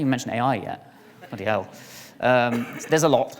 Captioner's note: audience laughs